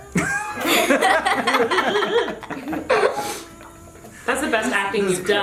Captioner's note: laughs